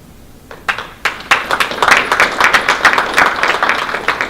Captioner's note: applause